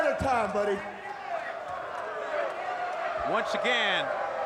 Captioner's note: crowd jeering